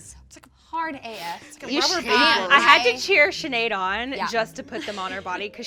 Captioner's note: laughs